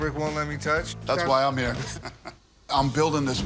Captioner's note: laughs